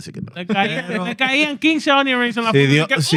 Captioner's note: speaking Foreign Language